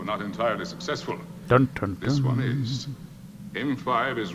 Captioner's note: ominous humming